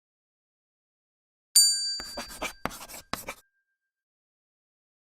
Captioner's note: bell dings